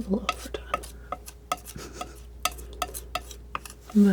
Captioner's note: tapping